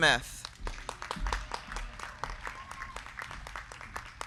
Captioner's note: crowd clapping